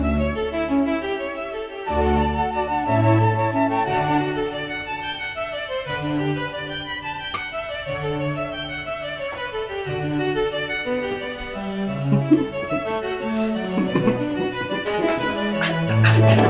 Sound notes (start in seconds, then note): 12.1 sniffs